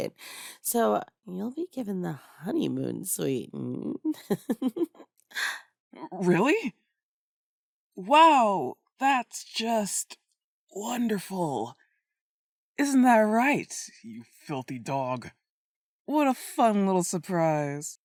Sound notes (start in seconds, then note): 5.0 disbelief; 9.3 strains